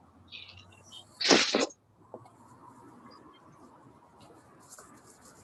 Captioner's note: mic rustling